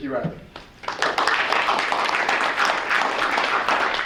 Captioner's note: applause